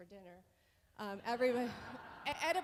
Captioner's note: audience laughs